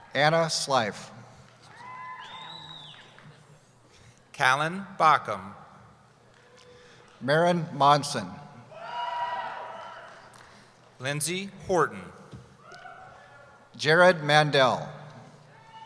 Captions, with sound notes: - Anna Slife. (cheering) - Callen Bakkum. - Maren Monson. (cheering) - Lindsay Horton. - Jared Mandel.